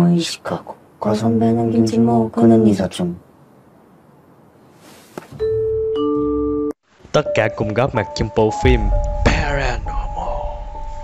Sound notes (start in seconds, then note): 5.4 ding Dong